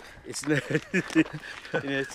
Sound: laughs

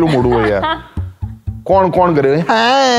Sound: laughs

